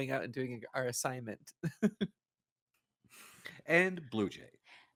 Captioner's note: laughs